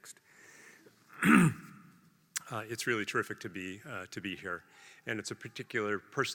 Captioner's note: cough